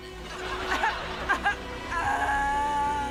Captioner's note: sobbing; wailing